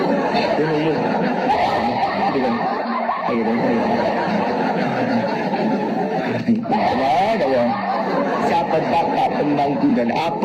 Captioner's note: sound crowd laughing !